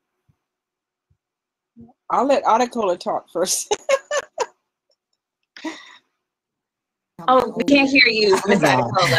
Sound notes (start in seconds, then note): 3.8 laughs